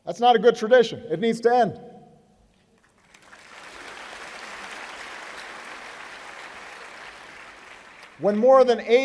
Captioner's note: applause